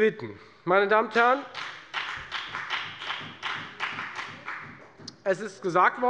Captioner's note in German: Beifall bei der FDP